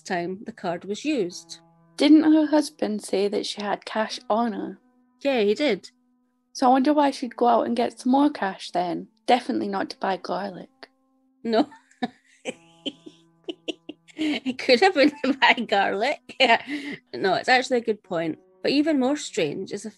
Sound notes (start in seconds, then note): 13.4 laughs